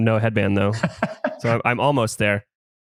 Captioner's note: laughs